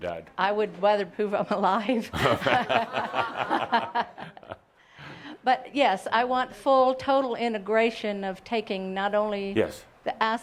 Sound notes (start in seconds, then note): 2.0 they both laugh